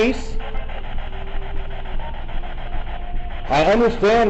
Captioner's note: static buzzing